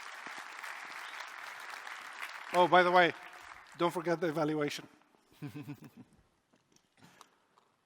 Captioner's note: applause